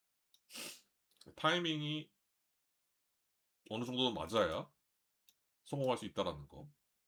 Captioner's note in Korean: 콧방귀